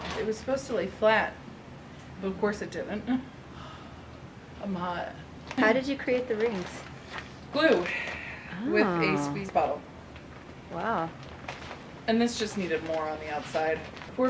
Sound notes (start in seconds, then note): 3.5 sigh